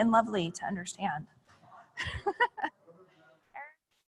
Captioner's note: laughing